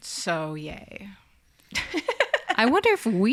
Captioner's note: laughs